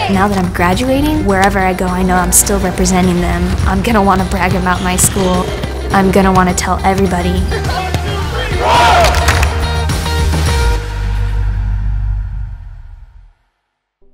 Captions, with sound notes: Now that I'm graduating, wherever I go, I know I'm still representing them. I'm going to want to brag about my school. I'm going to want to tell everybody. (crowd cheering)